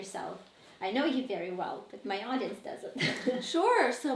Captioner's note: chuckles